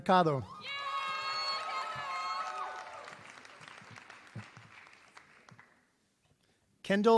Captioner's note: applause